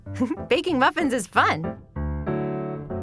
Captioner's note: giggles